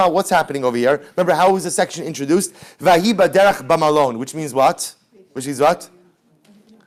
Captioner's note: Hebrew